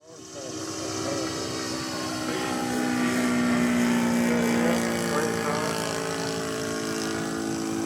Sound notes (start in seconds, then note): 0.0 motors buzzing; 0.2 faint male voice